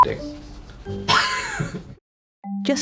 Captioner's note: laughs